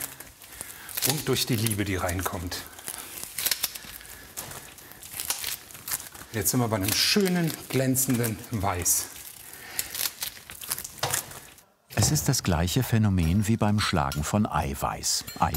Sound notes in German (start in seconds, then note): 2.7 Knistern